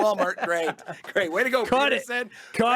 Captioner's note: laughing